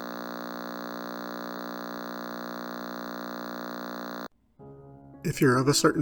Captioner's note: Static